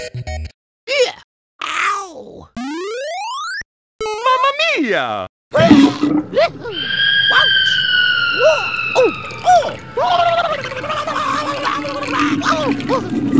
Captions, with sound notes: Eww! Oww! Mamma Mia! Bleugh! Bleugh-hoo! (*scream*) Whoach! Whoa! Oof! Ooh! (*warbles*) (*warbles*)